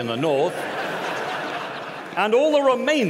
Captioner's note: laughter